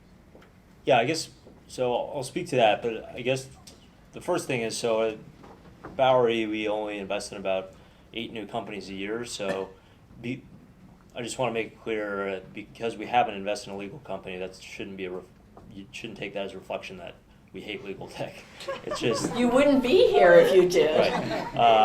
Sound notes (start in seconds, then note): 18.5 laughter